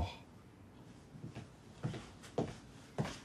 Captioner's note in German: Schritte